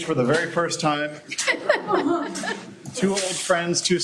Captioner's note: laughter